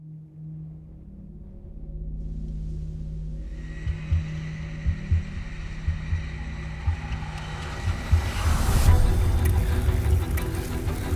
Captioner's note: riders panting